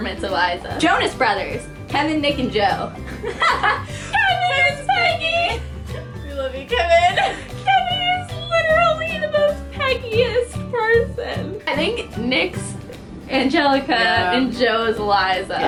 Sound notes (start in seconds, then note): 3.1 laughter